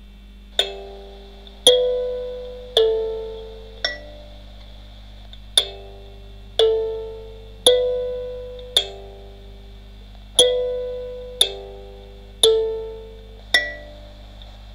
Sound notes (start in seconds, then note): 0.6 Westminster Chimes